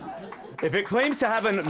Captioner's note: audience Laughing